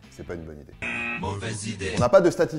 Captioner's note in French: bruit de buzzer